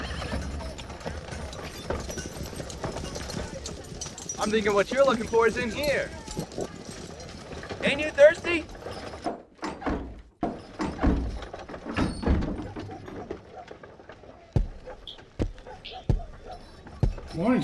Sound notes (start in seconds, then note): 0.1 horse whines; 10.1 dog barking; 10.1 door banging; 14.5 footsteps thudding